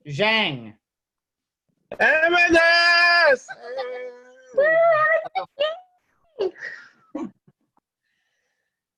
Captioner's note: cheering